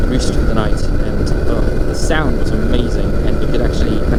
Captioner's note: grunts